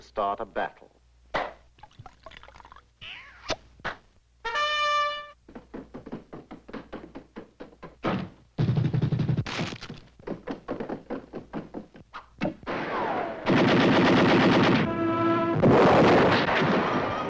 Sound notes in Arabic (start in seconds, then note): 0.1 فرقعة فلين الشمبانيا، صب السائل; 4.4 نداء البوق; 5.1 الخطوات، الباب يُغلق; 8.1 القصف، الخطى; 12.6 إطلاق نار